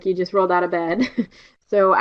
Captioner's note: chuckles